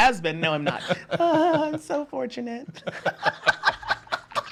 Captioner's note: laughs